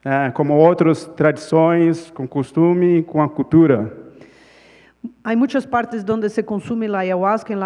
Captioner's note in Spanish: Ponente habla en portugués